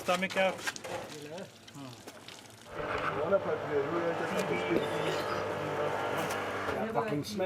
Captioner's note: workers speaking in foreign language